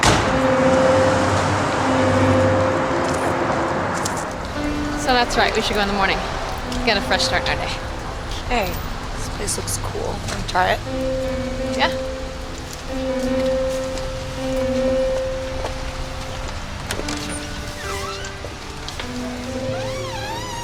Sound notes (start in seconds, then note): 0.0 object thuds; 15.2 footsteps thudding; 17.8 door creaking